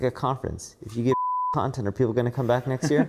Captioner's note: beep